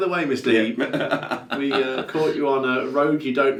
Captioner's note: laughing